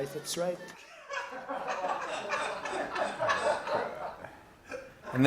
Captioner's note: laughter